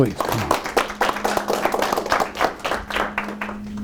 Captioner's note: applause